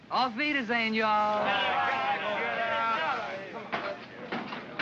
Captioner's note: men heckle & grumble; feet bang up metal stairs